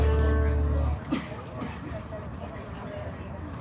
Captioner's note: indistinct chatter